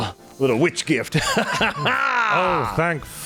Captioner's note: laughter